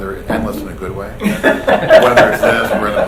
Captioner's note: laughing